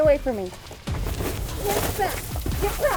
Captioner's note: scuffling